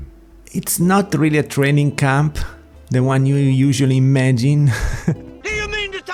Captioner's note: laugh